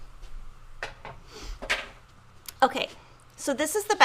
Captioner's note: tools clattering